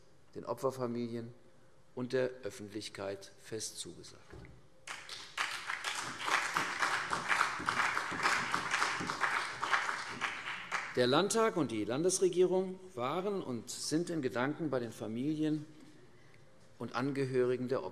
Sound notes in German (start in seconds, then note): 4.8 Beifall CDU und BÜNDNIS 90/DIE GRÜNEN